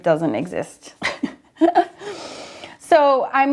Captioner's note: laughs